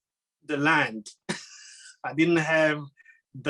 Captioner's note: laughing